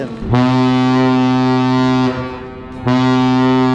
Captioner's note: ship horn